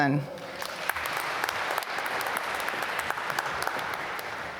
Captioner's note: applause